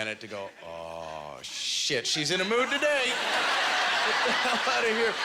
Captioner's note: audience laughter